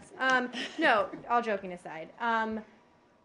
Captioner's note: laughter